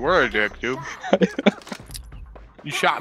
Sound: laughs

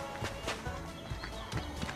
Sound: steps

